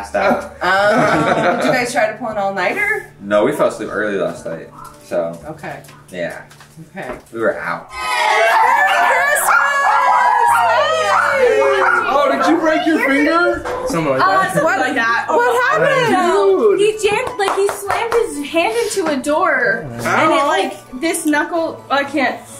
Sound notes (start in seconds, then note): 8.0 children shout and dogs bark